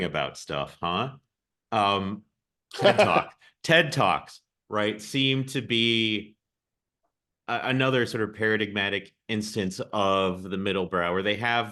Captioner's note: laughs